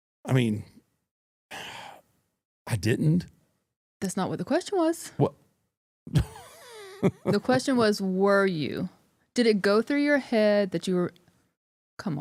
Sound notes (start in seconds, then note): 6.1 chuckles